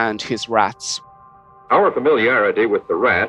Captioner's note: soundbite of archived recording